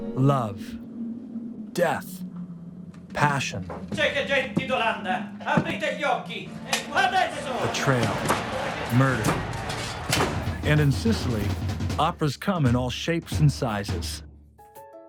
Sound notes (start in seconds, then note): 4.1 speaking in foreign language